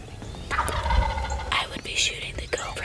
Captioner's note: whispering